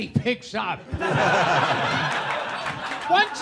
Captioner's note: people laughing